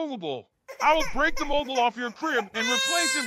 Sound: crying

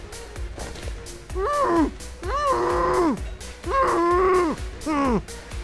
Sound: muffled anger

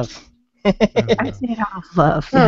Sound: laughs

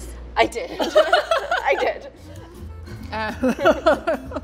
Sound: laughs; lighthearted music

